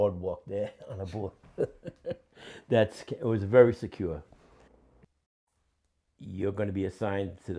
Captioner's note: laughs